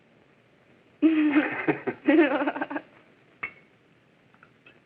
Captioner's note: both laughing